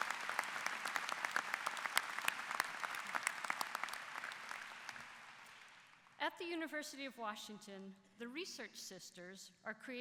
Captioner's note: applause